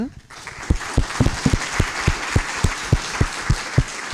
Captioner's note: applause